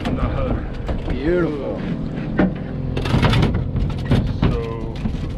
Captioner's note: fish thrashing